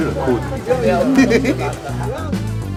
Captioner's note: both laughing